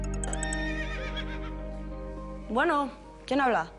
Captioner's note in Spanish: Suena el celular; Relinchos